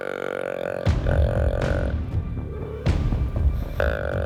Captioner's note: animal grunting